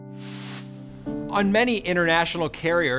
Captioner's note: graphics swishing